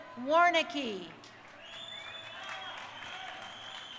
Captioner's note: crowd cheering